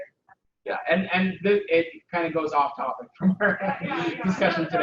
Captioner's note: laughs